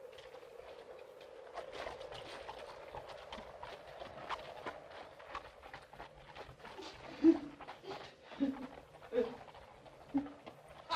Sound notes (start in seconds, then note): 0.0 wind blows; 0.0 hooves trotting away; 0.0 wind blows; 7.2 eerie weeping sound